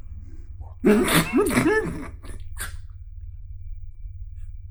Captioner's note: Chuck laughing